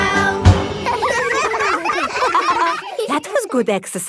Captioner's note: all giggling